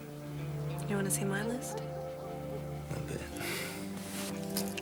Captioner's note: laughs